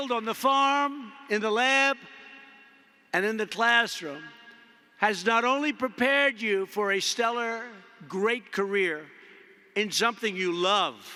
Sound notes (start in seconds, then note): none